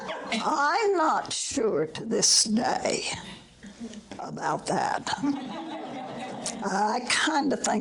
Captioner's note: audience laughter